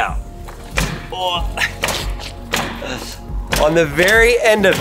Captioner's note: grunts